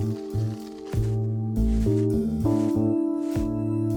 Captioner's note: brush scratching